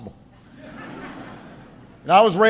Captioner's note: laughter